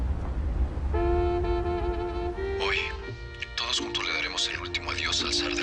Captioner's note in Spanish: Voz en la radio